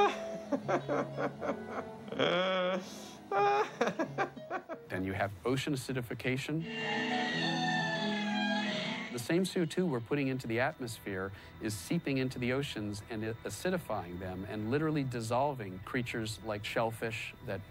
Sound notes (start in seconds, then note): 0.0 laughing; 6.6 squealing